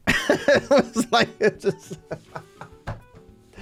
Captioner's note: laughs